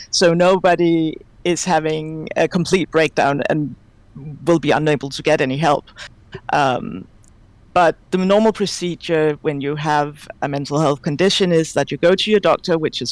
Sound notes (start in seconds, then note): none